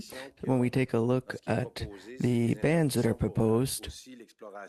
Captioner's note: speaking French